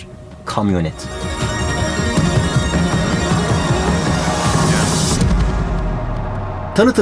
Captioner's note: sound effects